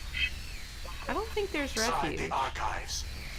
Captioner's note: static